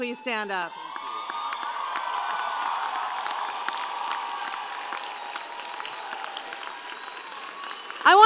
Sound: loud cheering and applause

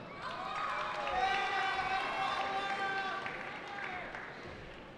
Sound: cheering

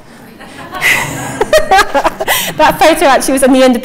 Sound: audience laughing

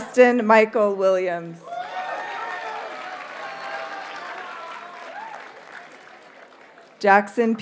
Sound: audience cheers and applauds

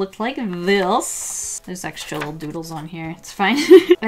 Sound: laughs

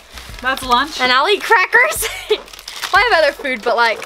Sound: laughter

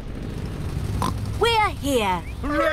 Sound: oinks

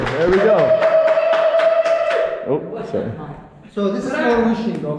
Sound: applause

